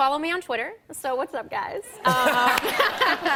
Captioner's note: laughter